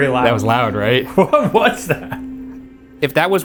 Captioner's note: laughing